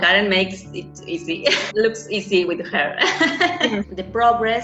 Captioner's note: laughs